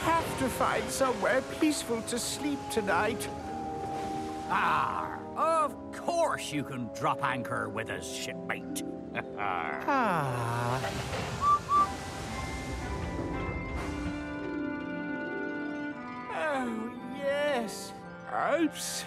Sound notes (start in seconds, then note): 9.4 sighs contentedly; 11.3 whistles